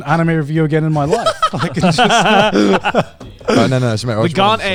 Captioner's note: laughs